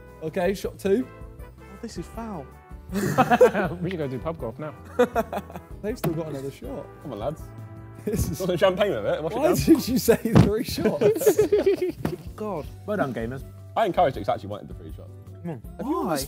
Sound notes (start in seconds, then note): 12.6 men laugh